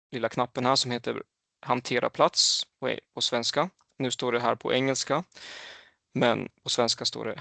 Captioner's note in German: auf Schwedisch